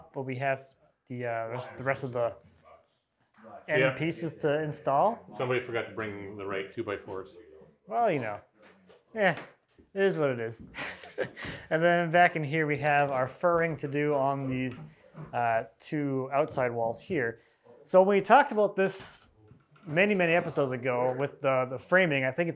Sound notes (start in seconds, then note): 10.7 laughs